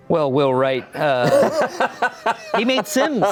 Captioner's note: laughs